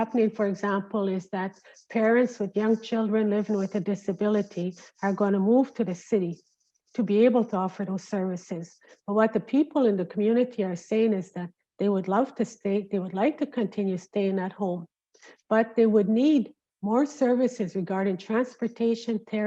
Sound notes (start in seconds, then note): none